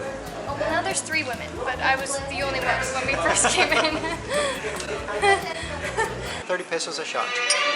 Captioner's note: laughter